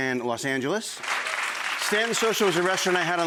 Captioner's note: audience clapping